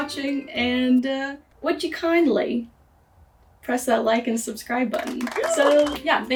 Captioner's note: applause